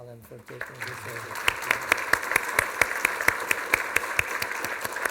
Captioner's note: applause